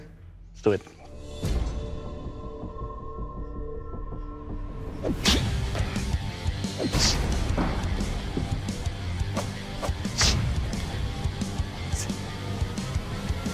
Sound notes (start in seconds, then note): 6.8 impact sounds